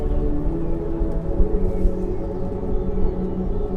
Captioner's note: birds chirping